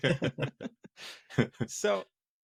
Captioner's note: laughing